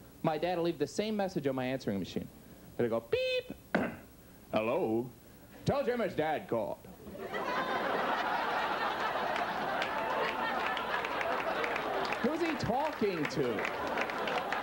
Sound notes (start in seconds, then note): 3.7 clears throat; 7.5 audience laughs